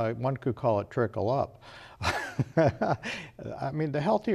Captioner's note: laughs